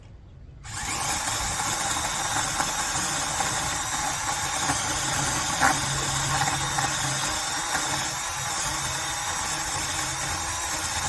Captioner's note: chainsaw revs